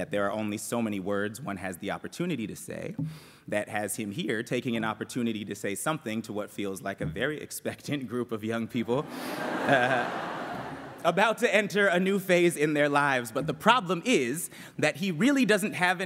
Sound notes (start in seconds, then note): 9.1 laughter